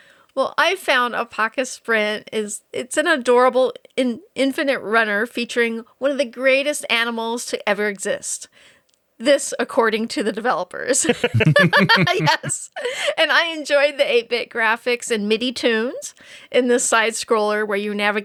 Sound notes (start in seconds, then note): 11.0 laughing